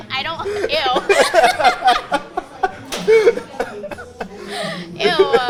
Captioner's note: both laughing